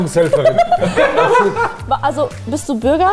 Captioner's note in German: Lachen